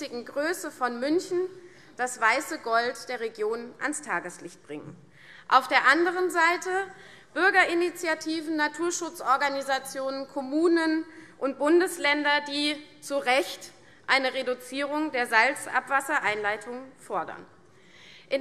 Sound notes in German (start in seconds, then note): none